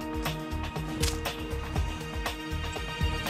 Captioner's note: smacks tree